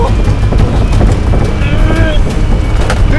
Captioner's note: groans